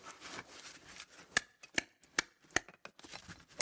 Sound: the sound that comes out when the stone hits the wall, knock knock knock knock

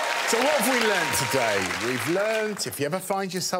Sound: audience cheering

